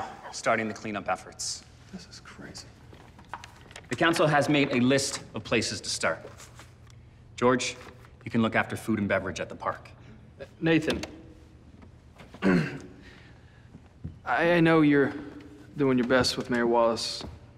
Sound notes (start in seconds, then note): 1.7 Collin whispering